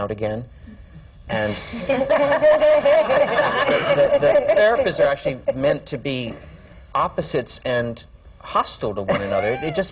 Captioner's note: laughter